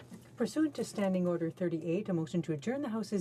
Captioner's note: speaking in french